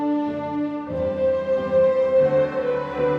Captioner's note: none